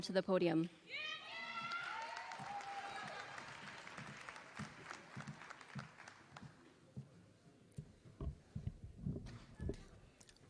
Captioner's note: applause